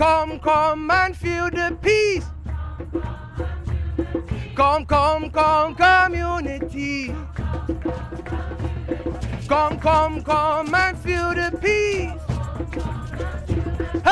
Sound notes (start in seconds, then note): 2.5 crowd; 7.1 crowd